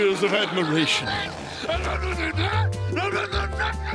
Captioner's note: grumbling